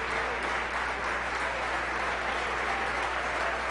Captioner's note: applause